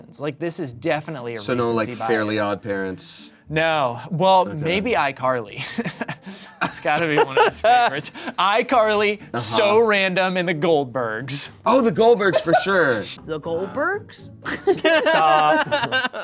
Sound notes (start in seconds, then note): 14.5 laughs